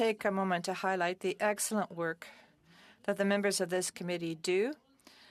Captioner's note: speaking French